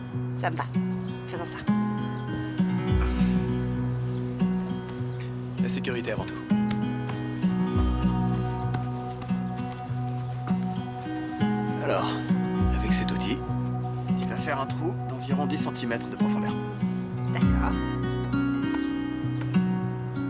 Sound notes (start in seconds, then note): 2.9 clears throat; 4.1 soft music